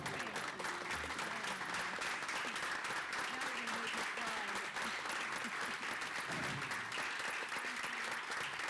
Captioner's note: applause